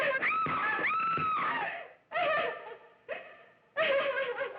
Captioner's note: screaming and laughing